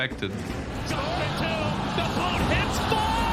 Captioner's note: crowd continues cheering